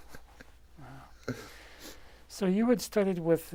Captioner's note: laughs